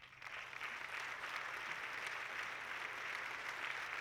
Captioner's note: audience clapping